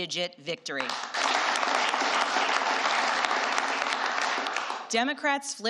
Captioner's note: applause